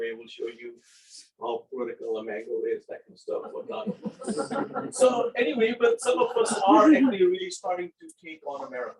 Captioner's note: laughing